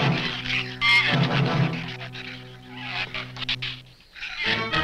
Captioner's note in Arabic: ثرثرة الزبابة